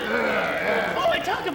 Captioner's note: men growl